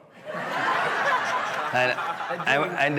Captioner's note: guests laughing